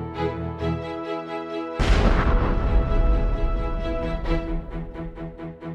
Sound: explosion

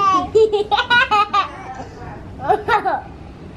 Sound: laughing

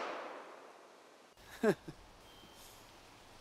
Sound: laughs

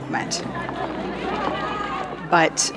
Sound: protester shouts

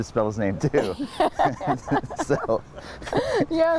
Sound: laughing

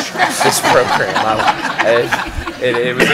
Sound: laughter

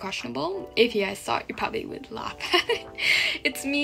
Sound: laughs

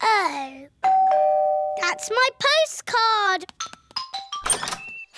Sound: doorbell rings

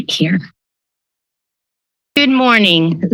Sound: silence

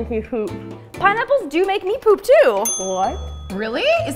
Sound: ding

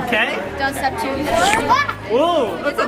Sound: loud lick

